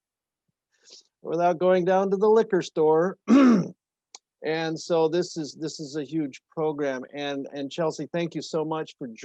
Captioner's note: ahem